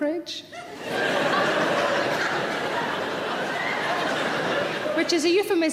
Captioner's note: audience laughing